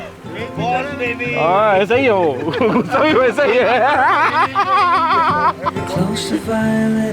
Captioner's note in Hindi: हंसी